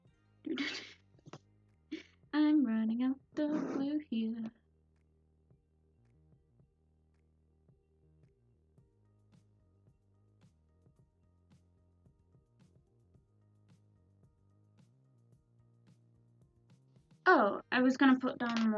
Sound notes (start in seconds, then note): 3.3 laughs